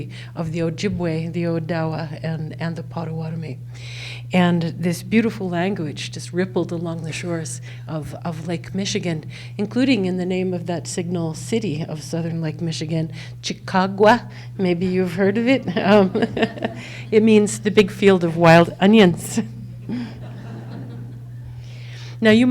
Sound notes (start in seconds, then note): 14.9 laughs; 19.7 audience laughs